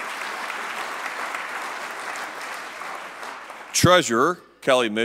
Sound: applause

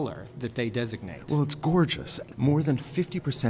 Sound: voiceover

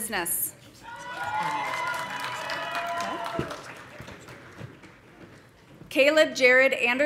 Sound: audience cheering; audience applauding

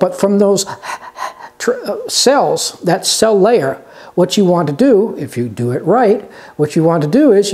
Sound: panting sounds

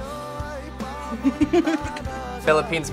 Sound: React laughs

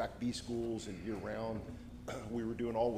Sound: clears throat

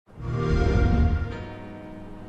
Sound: xbox sound

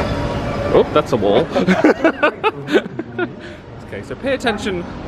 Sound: laughs

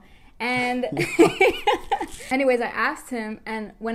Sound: laughter

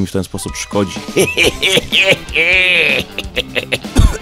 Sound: kevin costner's evil laugh

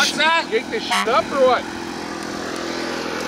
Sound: car horn honks

